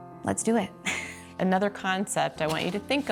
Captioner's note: laughs